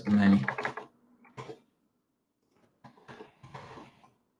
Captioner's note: keyboard clacking